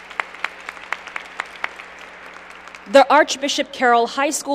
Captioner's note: applause